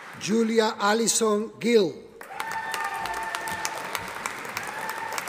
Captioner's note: audience applauding